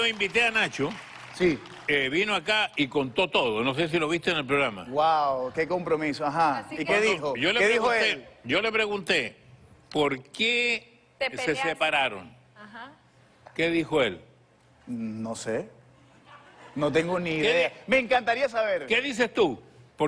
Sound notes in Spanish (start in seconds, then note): 16.1 Risas